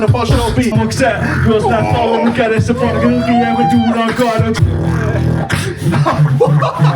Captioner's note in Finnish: beatbox